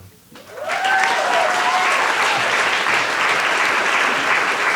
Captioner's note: applause